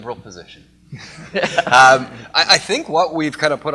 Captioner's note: laughter